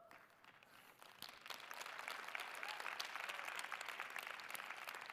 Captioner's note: audience applauds